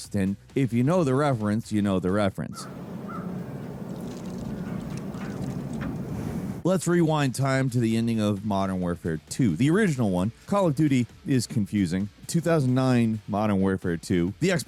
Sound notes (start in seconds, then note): 2.5 birds cawing; 2.6 wind blowing